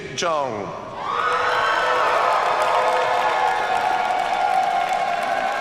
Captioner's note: audience cheers and applauds